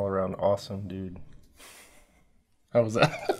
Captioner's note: laughs